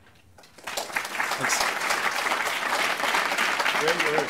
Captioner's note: applause